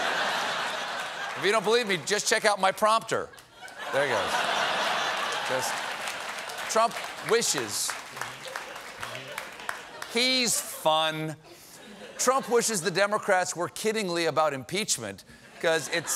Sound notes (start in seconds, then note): 0.2 laughter; 8.0 applause; 8.0 laughter